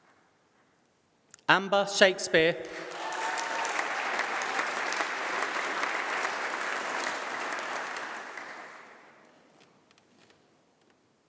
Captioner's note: applause; applause